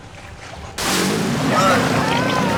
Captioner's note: animal growling